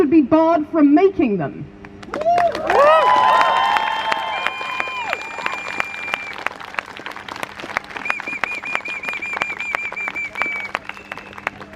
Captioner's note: crowd Cheers